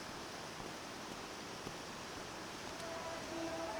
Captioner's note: rushing waters